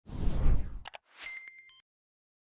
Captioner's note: logo whooshing; logo beeping